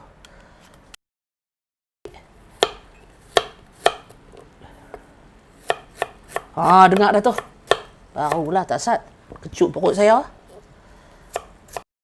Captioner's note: slicing ginger